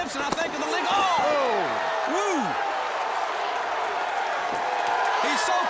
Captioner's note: crowd cheering